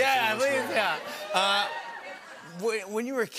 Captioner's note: audience cheers